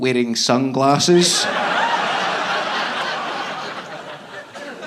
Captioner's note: audience laughing